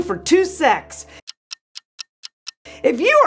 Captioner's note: clock ticking